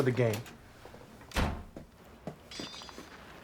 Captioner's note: door Opens; door Closes; swords Clanging